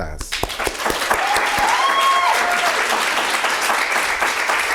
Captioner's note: audience applauding